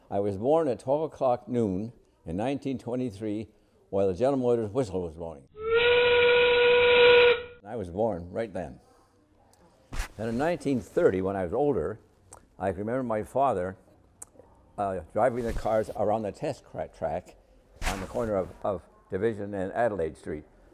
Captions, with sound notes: I was born at 12 o’clock noon in 1923, while the General Motors whistle was blowing. *whistle blows* I was born right then. And in 1930 when I was older, I could remember my father Driving the cars around the test track on the corner of Division and Adelaide street.